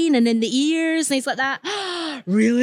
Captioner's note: loud gasp